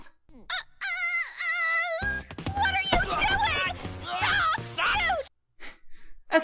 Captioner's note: screeches; laughs